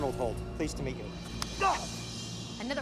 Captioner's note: Ryan grunts